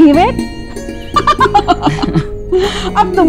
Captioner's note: Poonam laughing; Sheena chuckles